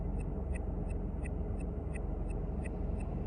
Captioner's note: car Blinker Sound